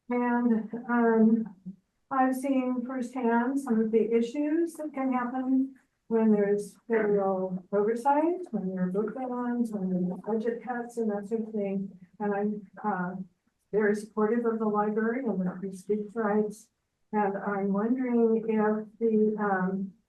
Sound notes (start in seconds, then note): 9.2 speaks faintly; 15.5 speaks faintly